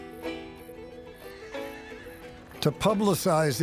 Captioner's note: horse neighing